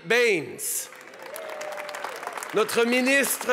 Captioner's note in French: Acclamations et applaudissements